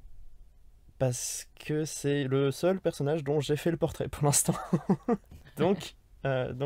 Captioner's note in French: Rires